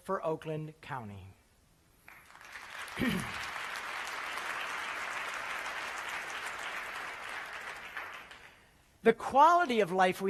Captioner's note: applause